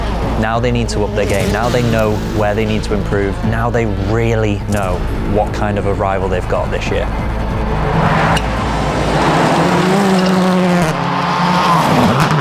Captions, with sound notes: now they need to up their game. Now they know where they need to improve. Now they really know what kind of a rival they've got this year. (engine revving)